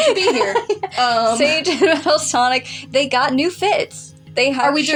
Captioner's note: chuckle; laugh